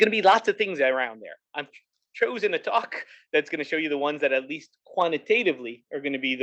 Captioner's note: laugh